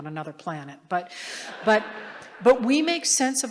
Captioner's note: laughter